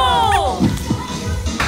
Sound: ba-dump

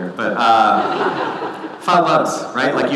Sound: audience laughing

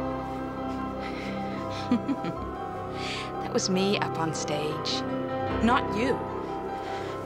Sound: laughing

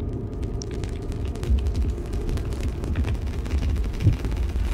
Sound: crackling static

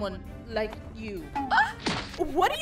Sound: insulted Gasp

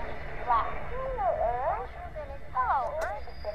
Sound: radio feedback

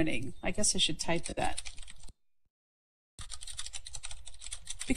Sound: typing

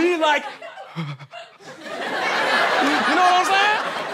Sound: shiver

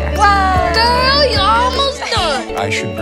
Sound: laughs

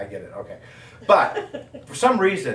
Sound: audience laughing

